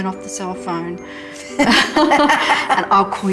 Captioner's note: laughter